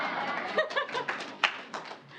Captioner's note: laughter